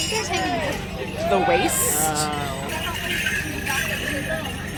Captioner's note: morris bells in background